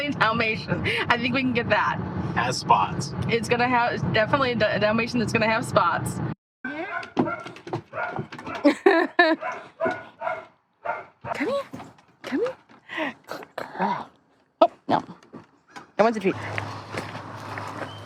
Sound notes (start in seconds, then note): 8.4 laughing; 9.3 woofing